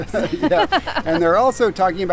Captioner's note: both laughing